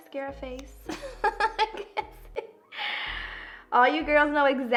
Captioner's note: laughs